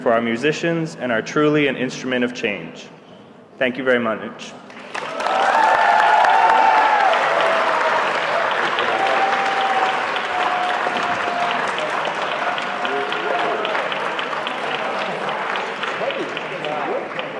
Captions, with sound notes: our musicians and our truly an instrument of change--thank you very much [APPLAUSE]